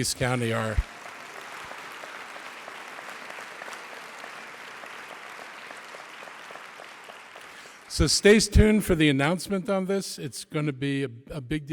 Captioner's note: applause